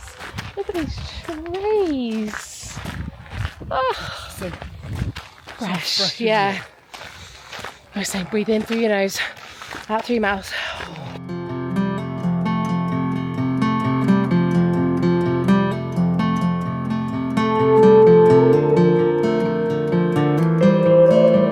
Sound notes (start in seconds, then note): 10.6 exhales heavily; 11.5 gentle guitar music